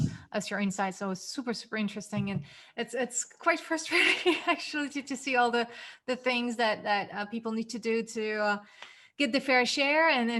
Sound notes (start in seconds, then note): 3.9 chuckles